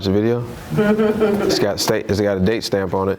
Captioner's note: laughter